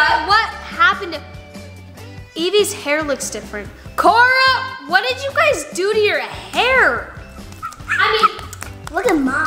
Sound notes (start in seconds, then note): 8.3 claps